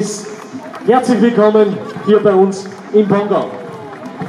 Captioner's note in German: Applaus